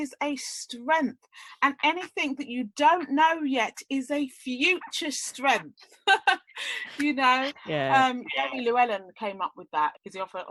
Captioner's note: laughs